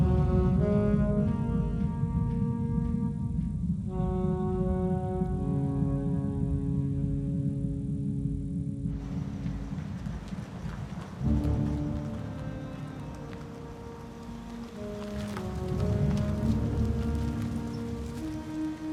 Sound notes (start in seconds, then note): 0.6 somber music; 5.4 insects chirping; 9.0 tires rumbling